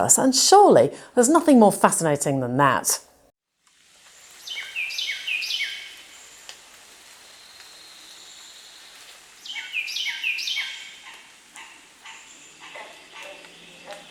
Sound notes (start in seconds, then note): 4.4 bird chirping; 11.0 monkey cackling; 12.6 monkey grunting